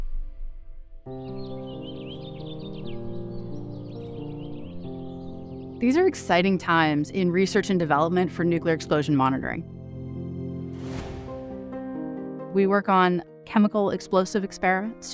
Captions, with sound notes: [Birds chirping] These are exciting times in research and development for nuclear explosion monitoring. [Drum beat] We work on chemical explosive experiments